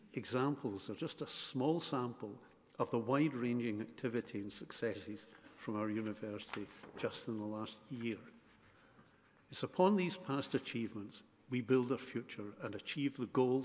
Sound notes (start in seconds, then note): none